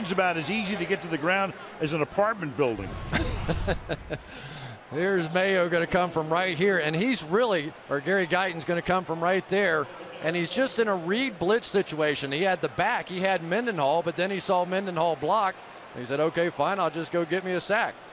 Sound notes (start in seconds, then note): 3.1 laughs